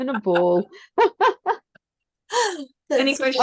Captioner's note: is laughing